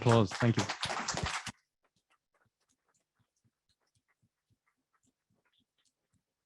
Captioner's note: applause